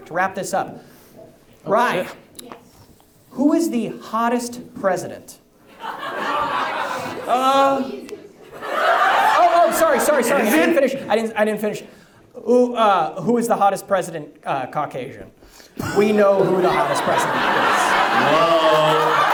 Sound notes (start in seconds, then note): 5.7 audience laughs; 17.7 audience laughs